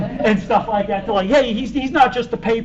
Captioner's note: laughter